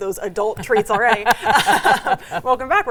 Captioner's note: both laugh